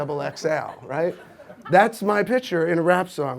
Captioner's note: audience laughs